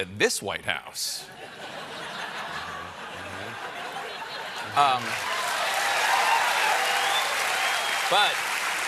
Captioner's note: cheers and applause; laughter